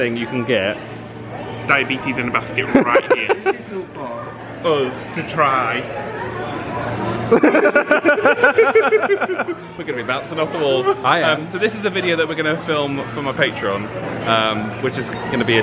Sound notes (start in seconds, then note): 7.2 group laughing